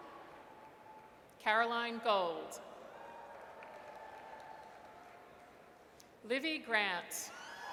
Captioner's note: audience cheers; audience cheers